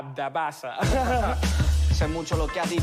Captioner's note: laughter